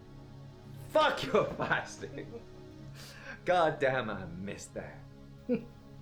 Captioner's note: Captain Brookes giggles